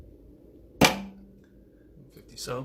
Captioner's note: pops